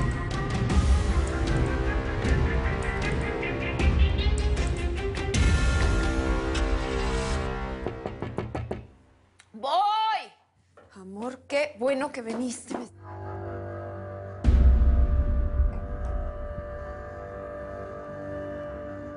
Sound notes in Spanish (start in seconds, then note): 8.2 Toques en la puerta